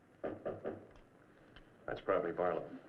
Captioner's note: knocking on door